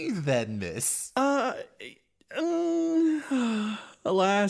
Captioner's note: Sad Melinnyas Noises